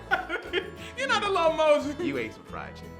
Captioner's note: laughs